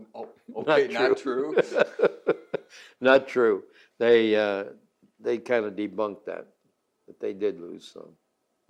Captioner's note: laughs